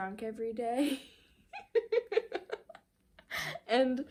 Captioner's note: laughing